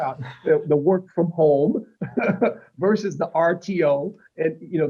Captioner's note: laughter